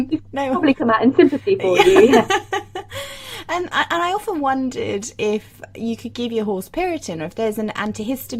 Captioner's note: laughs